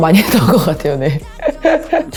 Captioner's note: laugh